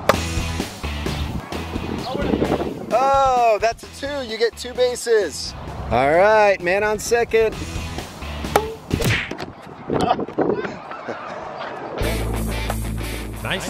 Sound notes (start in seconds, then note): 8.9 whack; 10.5 softly chuckles